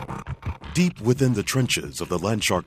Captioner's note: voiceover